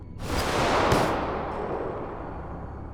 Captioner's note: gun fires; tense music